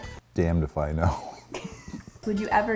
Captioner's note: both laugh